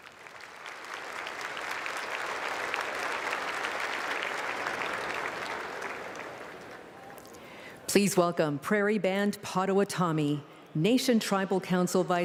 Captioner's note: applause